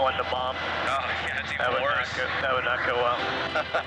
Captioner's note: laughter